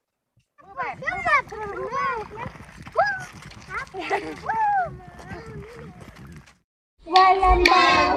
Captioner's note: children’s voices can be heard